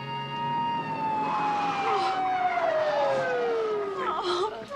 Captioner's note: wimpering